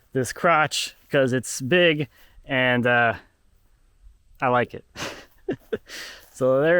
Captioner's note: laughing